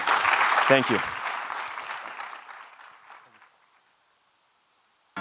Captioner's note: audience clapping